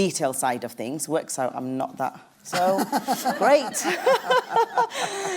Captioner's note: laughs